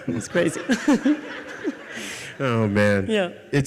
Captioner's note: audience laughs